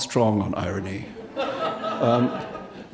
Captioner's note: audience laughing